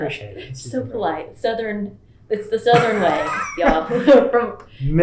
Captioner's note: laughter